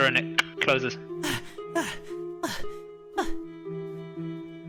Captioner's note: gasp gasp gasp gasp